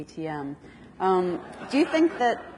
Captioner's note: audience laughs